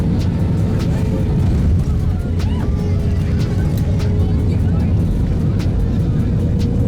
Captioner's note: passengers cheering